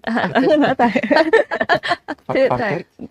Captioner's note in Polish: śmiech